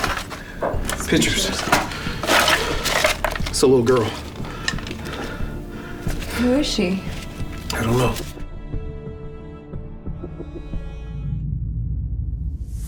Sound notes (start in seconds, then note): 4.9 panting; 7.9 pensive music